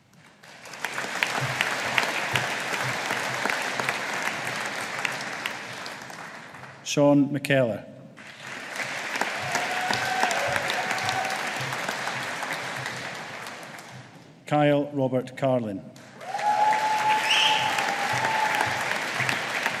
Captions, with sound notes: (AUDIENCE APPLAUDING) Shaun McKellar. (AUDIENCE APPLAUDING) Kyle Robert Carlin. (AUDIENCE APPLAUDING)